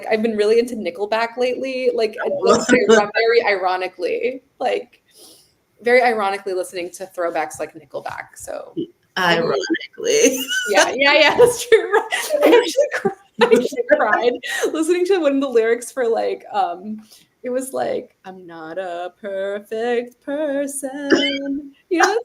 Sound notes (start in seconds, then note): 9.2 laughs